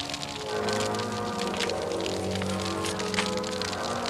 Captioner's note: crackling fire